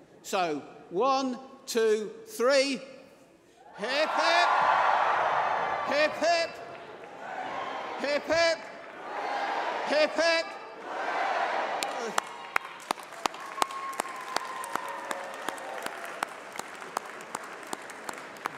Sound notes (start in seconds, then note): 6.4 applause